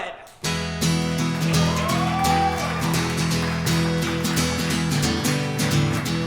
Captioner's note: guitar strumming; audience cheering